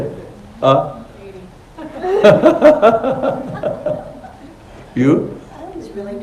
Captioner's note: laughter